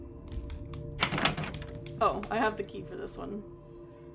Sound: door Rattles

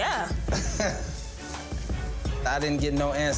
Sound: laughs

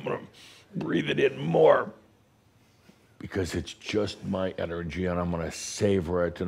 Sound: finally exhaling

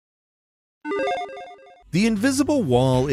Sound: digital chime

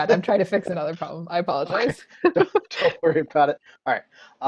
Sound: laughing; laughs

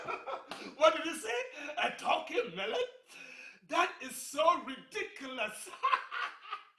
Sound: laughing

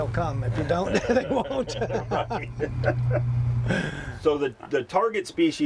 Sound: laughs

